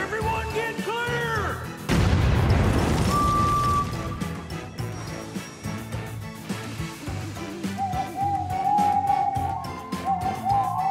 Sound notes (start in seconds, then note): 1.8 explosion; 3.0 whistles; 7.7 owls hoot